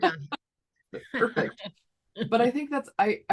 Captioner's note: laughing